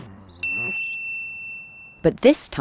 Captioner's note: bell dinging